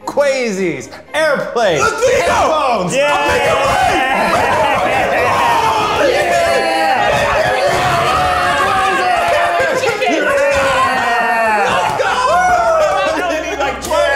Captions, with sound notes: Kwesi's airplane headphones! - (screaming) Make it rain, make it rain! (all screaming) - Let's go, let's go!